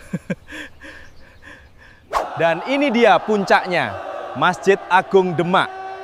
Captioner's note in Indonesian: tertawa